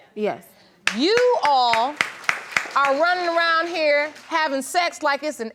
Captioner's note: crowd applaudes